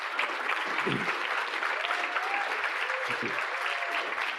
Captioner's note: audience applauding; audience cheering